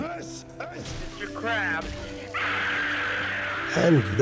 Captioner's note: screaming